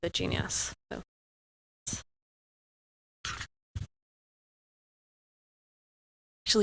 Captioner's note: audio out